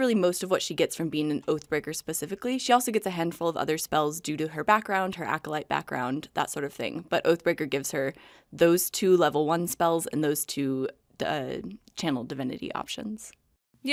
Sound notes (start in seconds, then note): none